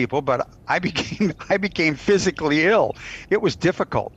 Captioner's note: chuckles